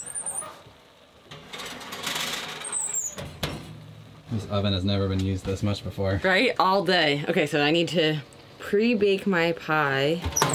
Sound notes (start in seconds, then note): 1.2 tray clanking; 10.0 oven creaking